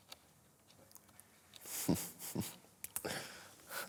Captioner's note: chuckles